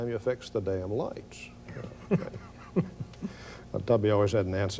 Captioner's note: laughs